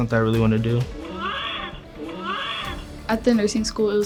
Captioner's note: simulated baby crying